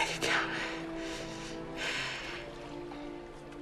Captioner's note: breathes heavily